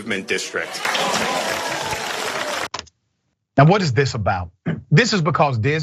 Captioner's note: applause